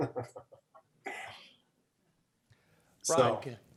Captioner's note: laughs